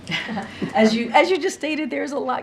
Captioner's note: laughs